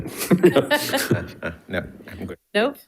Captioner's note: all chuckling